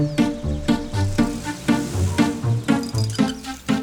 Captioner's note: engine revs